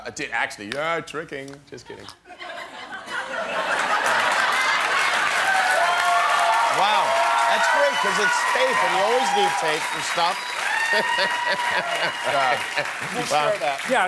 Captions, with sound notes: I did actually-- ah. Tricking. Just kidding. [LAUGHTER] [APPLAUSE] Wow. That's great, cause it's tape. And you always need tape for stuff. [LAUGHING] - We'll share that. - Yeah.